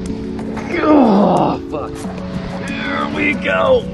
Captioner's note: grunting